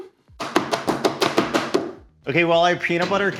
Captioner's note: cake pan banging